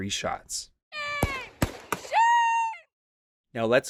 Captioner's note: gunshots